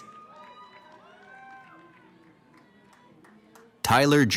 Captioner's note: cheering